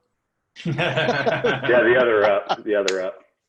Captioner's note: laughing